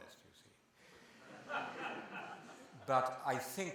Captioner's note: laughter